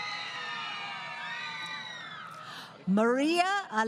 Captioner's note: crowd Cheering